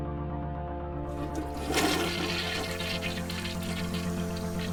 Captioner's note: toilet flushes